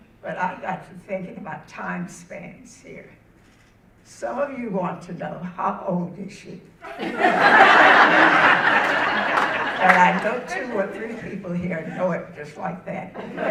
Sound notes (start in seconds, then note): 6.8 audience laughing